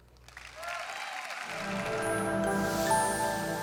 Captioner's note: audience applauds; calm music